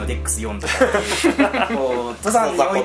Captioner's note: laughs